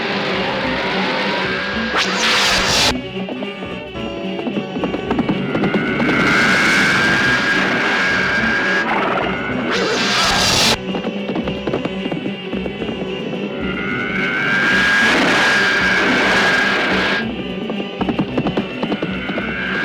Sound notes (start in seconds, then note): 0.0 zapping; 5.8 zooming